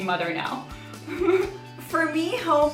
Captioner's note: laughs